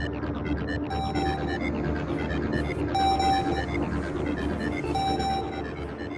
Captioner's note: phone rings